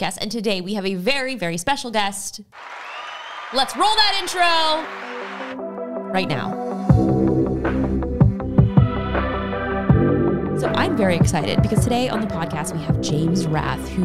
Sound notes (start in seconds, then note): 2.5 crown cheering; 5.3 suspenseful music; 7.4 upbeat music